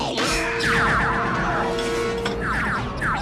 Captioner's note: ray gun firing